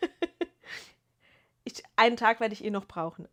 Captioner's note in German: gelächter